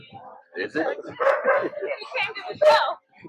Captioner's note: barks